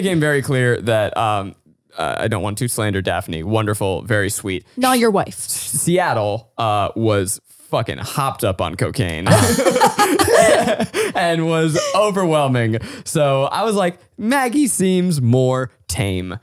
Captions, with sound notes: - Well then it became very clear that, I don't want to slander Daphne, wonderful, very sweet. - Not your wife. - Seattle was fucking hopped up on cocaine. (group laughing) And was overwhelming, so I was like, Maggie seems more tame.